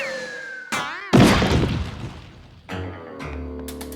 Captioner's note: whooshing; thudding